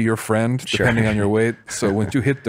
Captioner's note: laughs